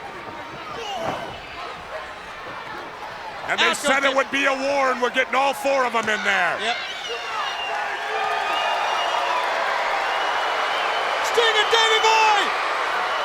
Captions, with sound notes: And they said it would be a war and we're getting all four of them in there. Yep. (crowd boos and cheers) Sting and Davey Boy!